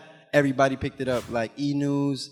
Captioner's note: animation whooshes